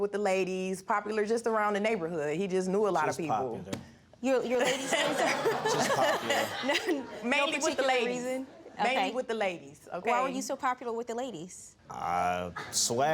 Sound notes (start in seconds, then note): 4.6 all laughing